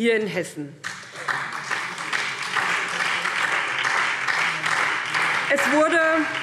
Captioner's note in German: Beifall SPD und Freie Demokraten